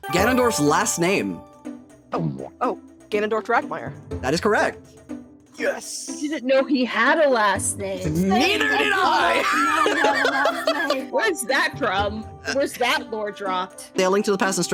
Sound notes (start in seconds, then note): 8.2 laughing